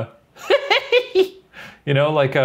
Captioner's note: sinister laughter